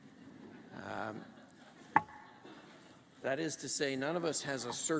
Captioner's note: laughter